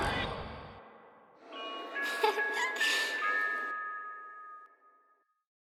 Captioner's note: creepy chuckles and equally creepy music